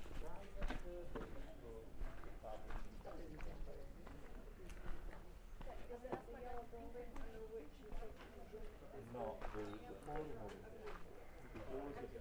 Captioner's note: footsteps